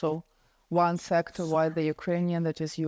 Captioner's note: whispers